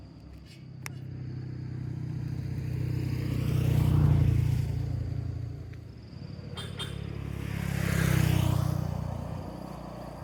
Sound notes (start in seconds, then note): 1.7 crickets and traffic